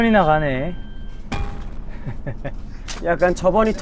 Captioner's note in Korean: 껄껄